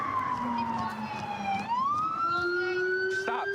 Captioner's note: sirens